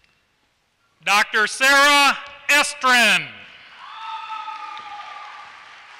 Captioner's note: applause